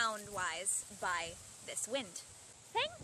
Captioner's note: wind slows